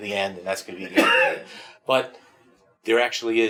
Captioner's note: coughs